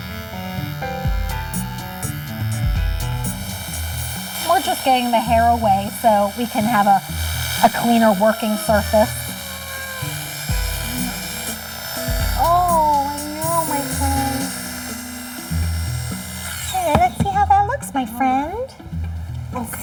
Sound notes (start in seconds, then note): 0.1 shaver whirring; 0.1 upbeat music; 9.1 Joey meowing; 10.6 shaver whirring; 10.6 upbeat music; 14.6 shaver whirring